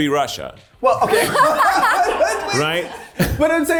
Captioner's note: cast laughing